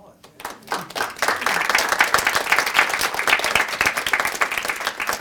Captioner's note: audience applauding